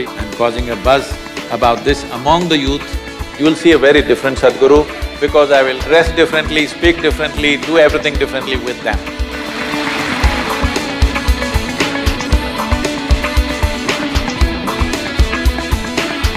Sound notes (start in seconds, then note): 9.4 applause